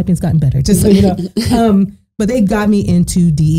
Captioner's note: laughing